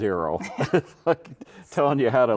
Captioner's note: chuckling